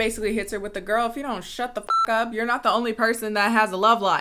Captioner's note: beep